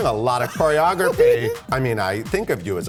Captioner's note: laughs